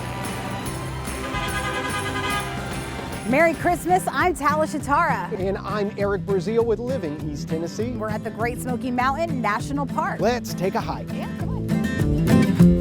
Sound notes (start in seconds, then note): 0.0 holiday music; 1.2 honking